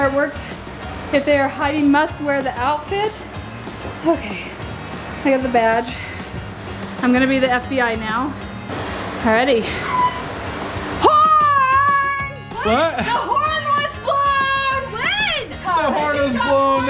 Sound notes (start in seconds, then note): 9.8 air horn